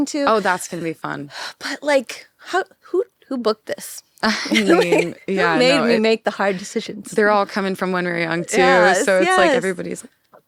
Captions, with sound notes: that I'm going to. - Oh, that's gonna be fun. - But like, who booked this? (laughs) Who made me make the hard decisions? - They're all coming from When We Were Young, too. So it's like, everybody's.